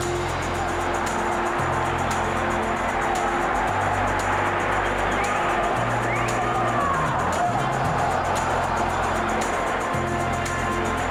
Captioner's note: applause